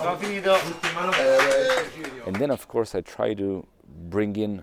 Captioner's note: applause